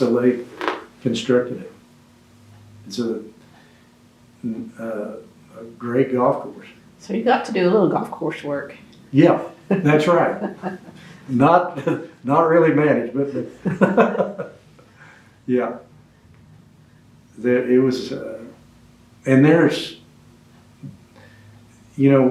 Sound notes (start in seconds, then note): 15.7 laughs